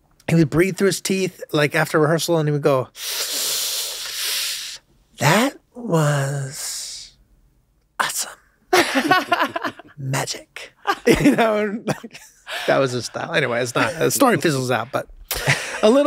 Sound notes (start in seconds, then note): 2.9 Charlie inhaling; 8.8 laughs